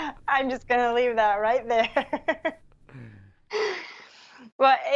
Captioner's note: laughs